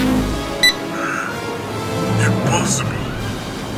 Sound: gasps

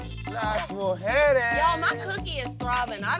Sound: speaking foreign language

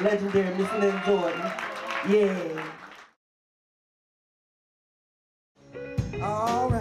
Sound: audience cheers

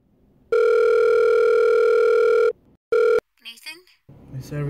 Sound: phone rings

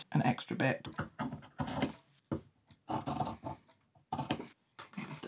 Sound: scissors cutting

